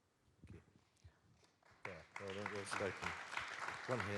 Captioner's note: audience claps